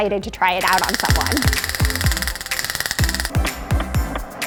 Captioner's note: taser clicking